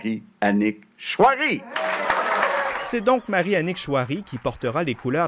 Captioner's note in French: applaudissements